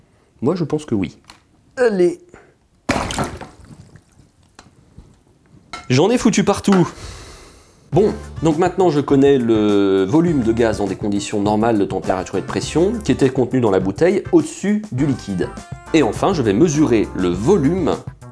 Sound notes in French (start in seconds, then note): 3.0 plouf